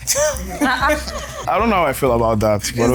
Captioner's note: laughs